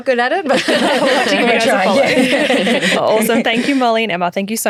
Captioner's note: everyone laughs